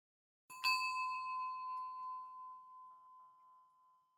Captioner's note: bell ringing